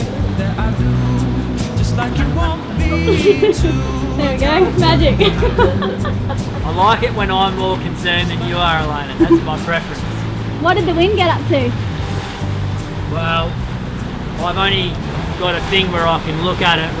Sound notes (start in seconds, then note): 5.2 laughing